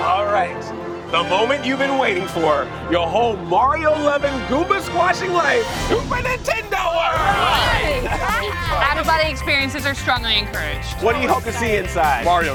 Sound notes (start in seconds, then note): 6.5 family cheers